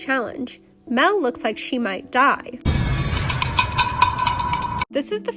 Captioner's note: shade sound effect